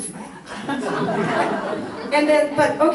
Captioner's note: audience laughs